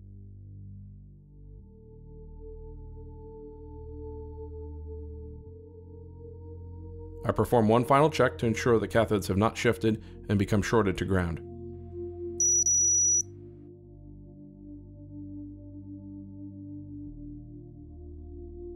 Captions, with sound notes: I perform one final check to ensure the cathodes have not shifted and become shorted to ground [loud beep]